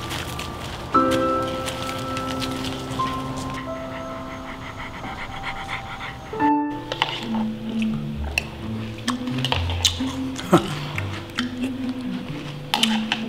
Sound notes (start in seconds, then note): 3.6 Kane panting; 7.5 gentle music; 7.5 spoon scraping; 8.8 munching; 8.8 spoon scraping; 10.2 chuckles; 13.1 spoon scraping